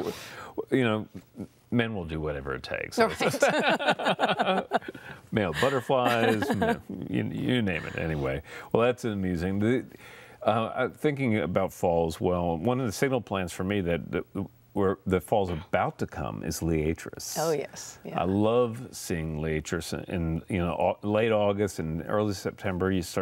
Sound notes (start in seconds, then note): 3.1 laughter; 5.5 laughing